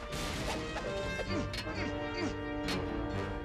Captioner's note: crash; grunts; grunting